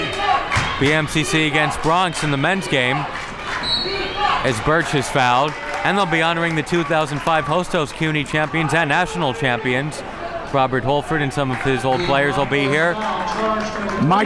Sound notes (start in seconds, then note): 3.6 whistle blows